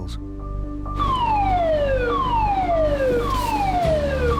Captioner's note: alarm blares